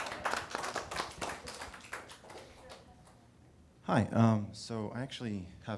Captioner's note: audience laughing and applauding